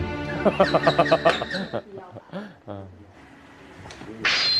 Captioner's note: laughing in disbelief